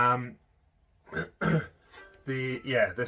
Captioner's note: clears throat